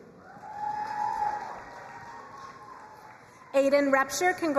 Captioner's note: crowd cheering and applauding